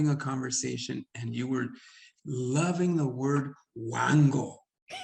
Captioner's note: speaks Spanish; Sandra laughing; speaks Spanish